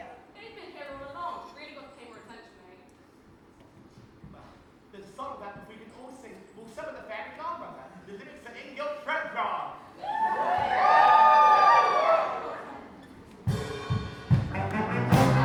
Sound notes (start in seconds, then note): 10.0 audience cheers